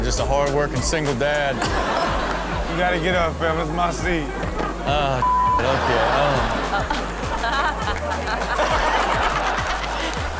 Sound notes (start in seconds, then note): 1.7 crowd laughing; 5.9 crowd Laughing; 7.9 laughing